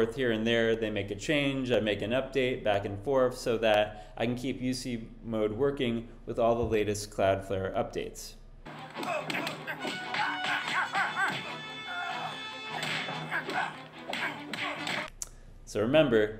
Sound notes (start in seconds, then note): 8.9 punching Sounds; 12.7 kick, Swish; 12.7 punch, Punch, Punch